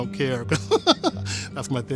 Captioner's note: chuckles